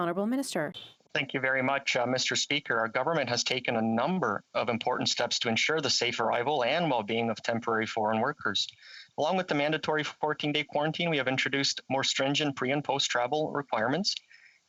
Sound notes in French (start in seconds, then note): 0.7 voix de l'interprète